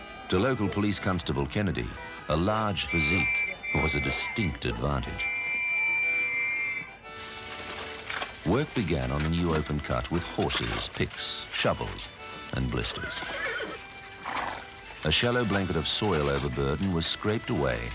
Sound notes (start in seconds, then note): 7.2 horse carriage galloping; 12.9 horse neigh